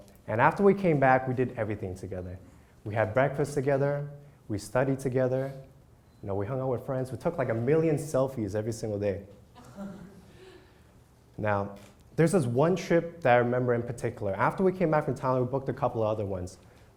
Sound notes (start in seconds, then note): 9.6 crowd laughs